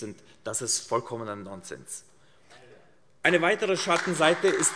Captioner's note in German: Beifall : Aha!